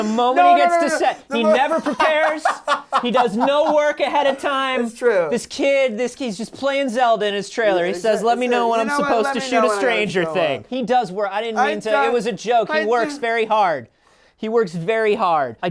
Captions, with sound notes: No, no, no, no, no. - He never prepares. - [LAUGHS] - He does no work ahead of time. - It's true. - This kid, this kid, he's just playing "Zelda" in his trailer. He says, let me know when I'm supposed to shoot a "Stranger Thing." - You know what? Let me know when I show up. - He does work-- I didn't mean to-- - I'm-- - It was a joke. - I do-- - He works very hard. He works very hard.